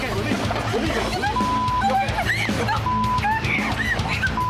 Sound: beep

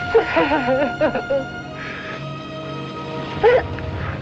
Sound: sobbing

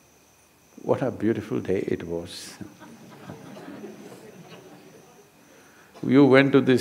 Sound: few laugh

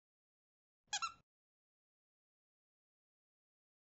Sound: squeak

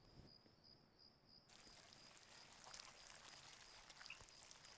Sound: worms squirm

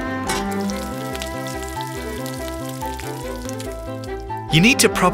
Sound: sizzling

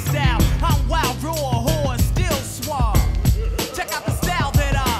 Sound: laughter

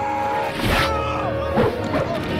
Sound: slashing

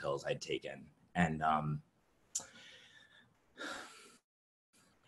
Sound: exhales deeply

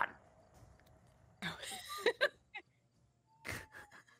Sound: laughing

